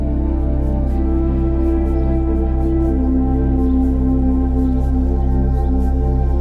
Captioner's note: gentle music; birds chirping